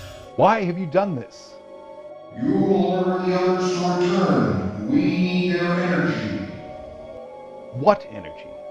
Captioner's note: deep, booming voice